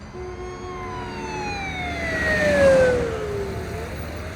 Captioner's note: ambulance siren wails